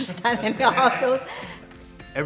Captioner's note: laughter